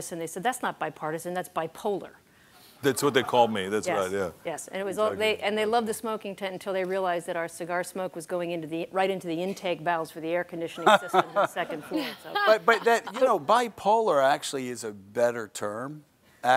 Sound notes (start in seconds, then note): 3.3 audience laughing; 10.7 laughter